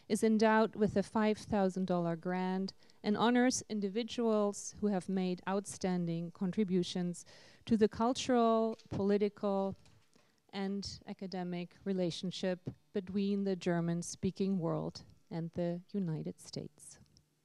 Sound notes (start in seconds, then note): none